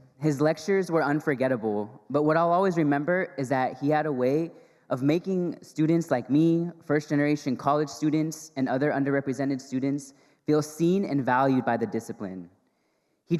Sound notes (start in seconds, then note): none